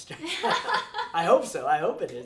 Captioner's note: laughing